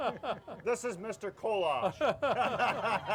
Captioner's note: laughing